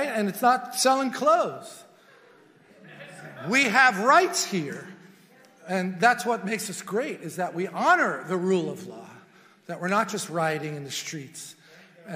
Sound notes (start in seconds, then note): 2.7 congregation murmurs